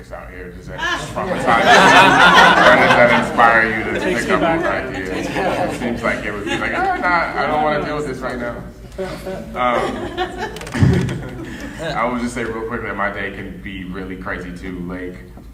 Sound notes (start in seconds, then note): 0.8 laughing drowns out speaker; 3.7 laughing drowns out speakers